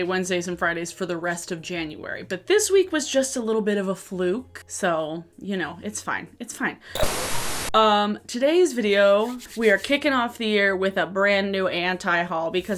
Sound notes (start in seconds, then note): 6.9 screen static; 9.1 rubbing hands together